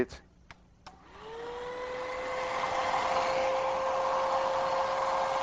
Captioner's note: motor purring